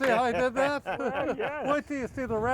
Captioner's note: laughing